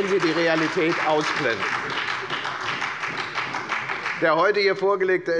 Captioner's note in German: Beifall bei der FDP und der SPD